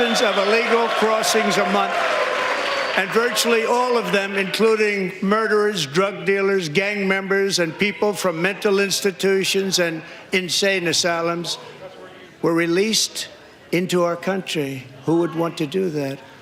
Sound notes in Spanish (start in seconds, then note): 2.5 aplausos